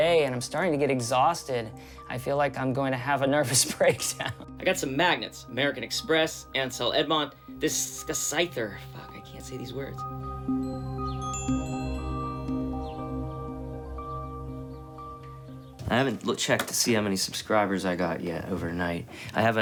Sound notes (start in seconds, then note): 11.8 chiming